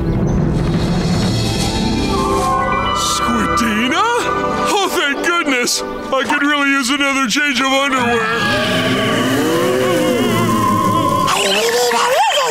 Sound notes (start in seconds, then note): 7.9 ghosts moaning